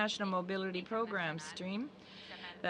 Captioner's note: speaking French